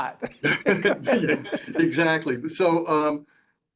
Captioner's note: laughing